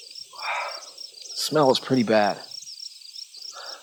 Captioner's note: sighs; sighs